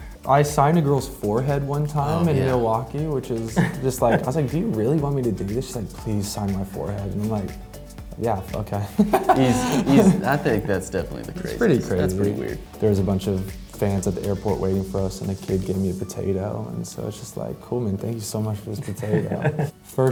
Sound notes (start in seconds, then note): 8.9 laughs